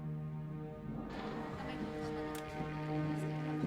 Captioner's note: noises over radio